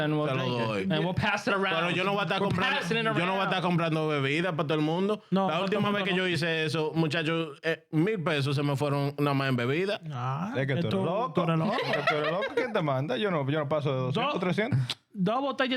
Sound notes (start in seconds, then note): 4.4 laughing; 4.4 speaking In Foreign Language